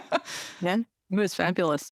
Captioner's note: laughs